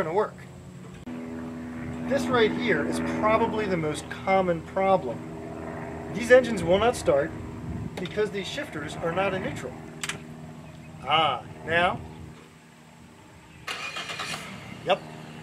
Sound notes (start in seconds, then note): 11.8 click; 13.6 engine starts